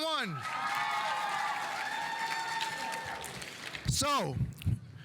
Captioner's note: audience cheering; audience applauding